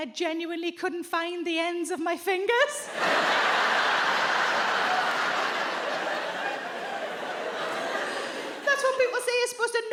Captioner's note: audience laughs